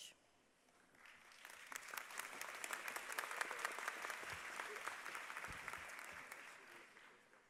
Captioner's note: applause